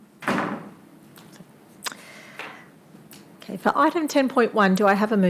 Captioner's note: door slams